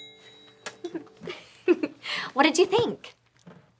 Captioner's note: triangle chimes; laughs